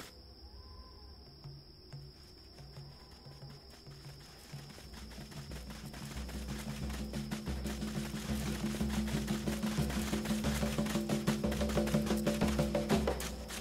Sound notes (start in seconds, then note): 0.0 footsteps; 2.6 soft footfalls